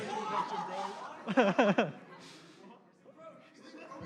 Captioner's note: laughter